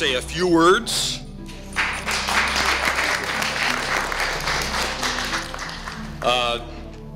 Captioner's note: applause